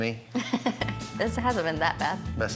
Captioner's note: laughter